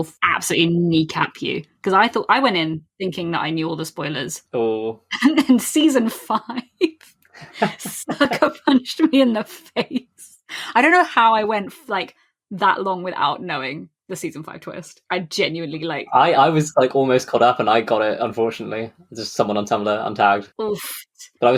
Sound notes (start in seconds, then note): 7.4 laughing